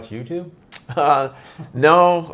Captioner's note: laughs